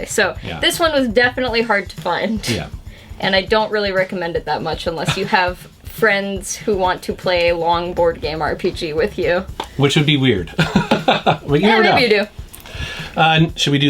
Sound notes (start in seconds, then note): 10.4 laughs